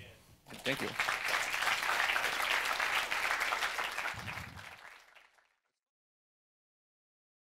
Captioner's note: applause